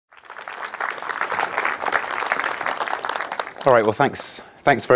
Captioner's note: audience applauding